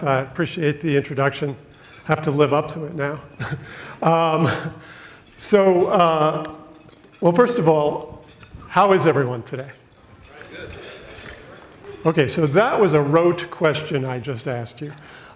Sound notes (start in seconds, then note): 3.3 laughs